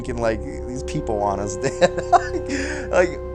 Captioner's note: chuckles